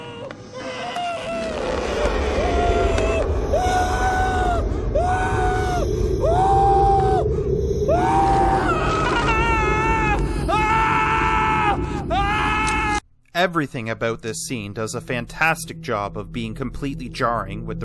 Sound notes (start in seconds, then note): 0.0 muffled screaming; 1.5 screaming continued; 8.7 clearer screaming